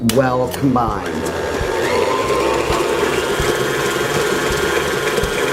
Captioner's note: machinery whirling